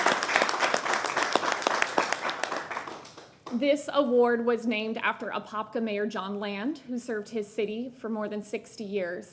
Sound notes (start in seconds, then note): 1.7 applause